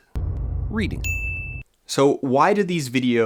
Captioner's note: ding